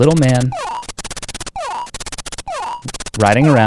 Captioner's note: graphics beeping